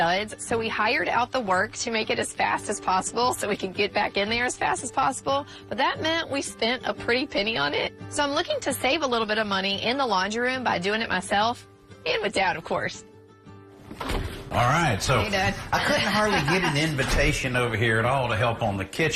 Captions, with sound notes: The kitchen renovation went down to the studs, so we hired out the work to make it as fast as possiblee so wcan get back in there as fast as possible. But that meant we spent a pretty penny on it. So I'm looking to save a little bit of money in the laundry room by doing it myself and with dad of course. - All right, so-- - Hey, Dad. [laughs] --I couldn't hardly get an invitation over here